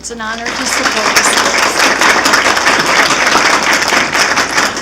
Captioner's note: applause